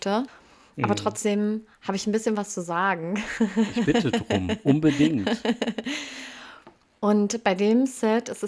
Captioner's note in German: gelächter; japst